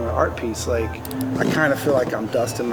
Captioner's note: drill whirs